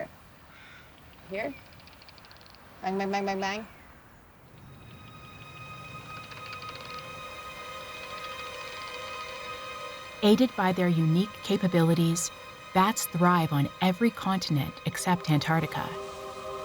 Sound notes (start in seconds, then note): 1.4 bird squawks, bats clicking; 4.6 bats clicking